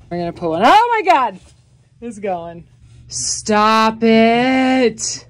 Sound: none

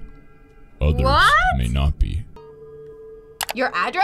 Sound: voice-over

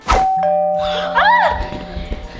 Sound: doorbell

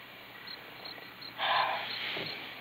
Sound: sighs

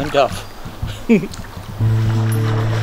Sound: giggle; thoughtful music

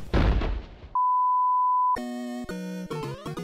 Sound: bang; 2nd BOOOOOOOOOOOOP

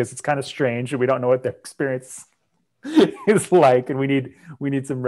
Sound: laughs

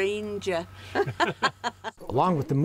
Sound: laughs

